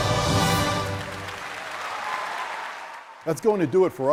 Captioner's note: audience applauding